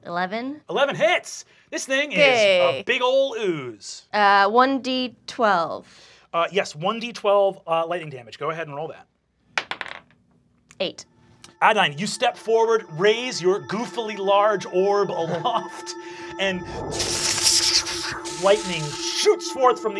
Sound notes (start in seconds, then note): 9.6 dice clacking; 16.6 electric buzzing